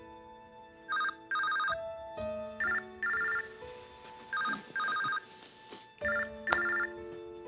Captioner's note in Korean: 휴대전화벨 소리